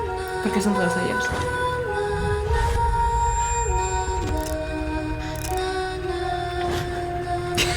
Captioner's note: confused in Spanish